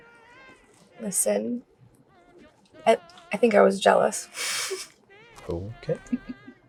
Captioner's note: chuckles